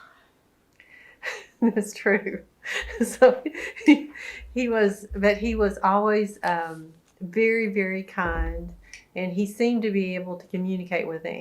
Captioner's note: laughs